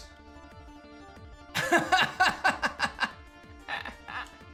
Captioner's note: laughs